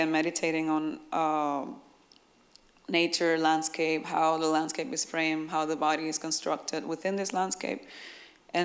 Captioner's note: none